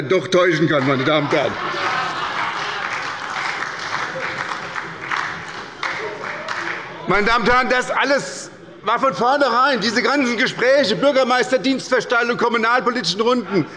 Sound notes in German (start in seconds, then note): 0.6 Heiterkeit und Beifall bei der SPD